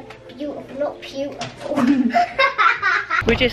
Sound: laughs

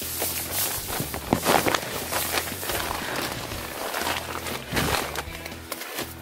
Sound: scuffling

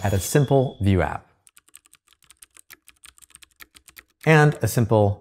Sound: keyboard clicking

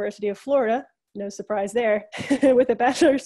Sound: laughs

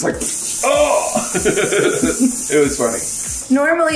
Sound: water running

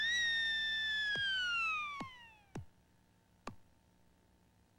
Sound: seal clapping

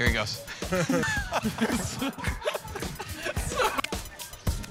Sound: laughter

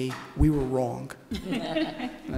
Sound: laughter

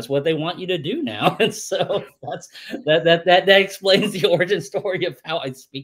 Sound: laughs

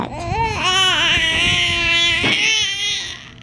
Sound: baby whining

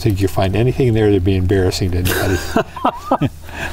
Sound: laughter

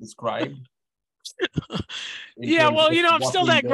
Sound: laughs

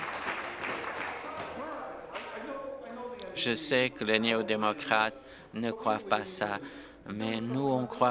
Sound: applause

